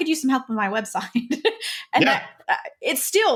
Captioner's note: laughs